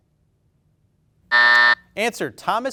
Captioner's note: buzzer buzzing